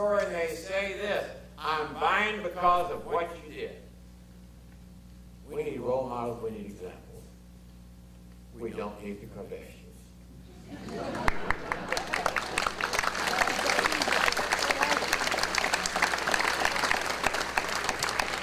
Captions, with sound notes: and they say this, "I'm buyin' because of what you did." We need role models, we need examples. We don't need the Kardashians. (audience laughter) (applause)